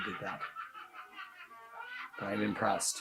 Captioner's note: laughs cunningly